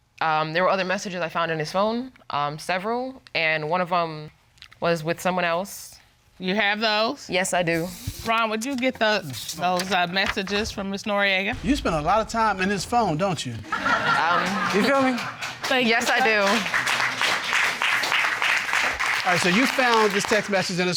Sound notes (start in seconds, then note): 13.5 audience laughing; 16.4 audience applauding